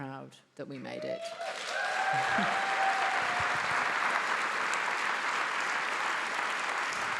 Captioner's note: attendees applauding; attendees cheering